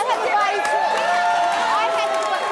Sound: audience clapping

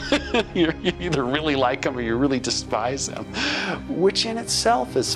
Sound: laughs

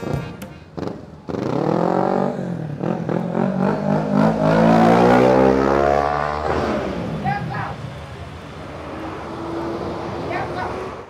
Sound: loud noise of motor bike

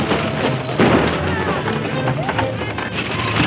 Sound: gunshots

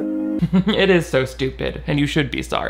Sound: snickers

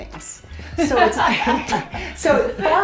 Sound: laughs

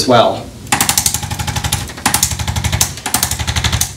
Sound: machine popping

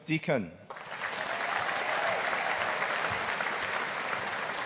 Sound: audience applauding

